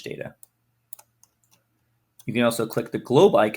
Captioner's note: mouse clicks